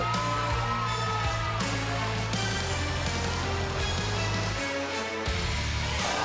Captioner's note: crowd cheering